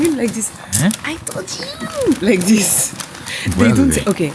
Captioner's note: imitating a Korean